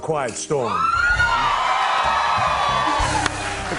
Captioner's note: cheers and applause